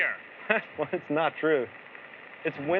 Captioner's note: chuckles